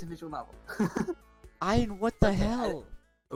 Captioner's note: giggles